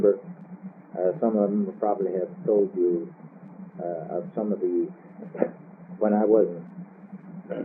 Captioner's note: clears throat